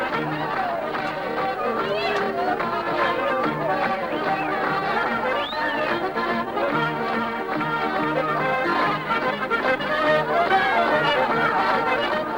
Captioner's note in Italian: Applauso